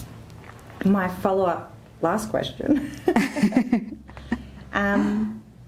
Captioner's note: laugh